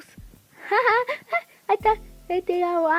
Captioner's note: laughs